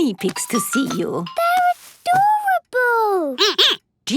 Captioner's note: squeaking